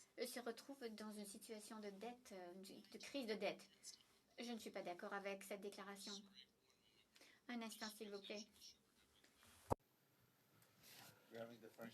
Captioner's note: speaking French